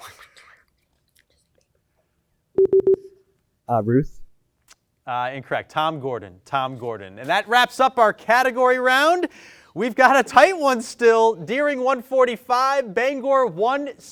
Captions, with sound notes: (time out beeps) - Ruth. - Incorrect, Tom Gordon, Tom Gordon. And that wraps up our Category Round. We've got a tight one still, Deering 145, Bangor 165.